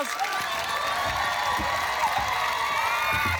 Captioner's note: cheering, applause